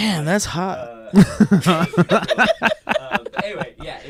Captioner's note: laughing